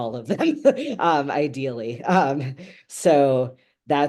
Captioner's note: laughing